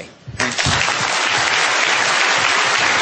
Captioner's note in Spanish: Aplauso